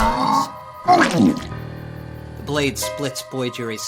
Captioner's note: Lumber Axe groaning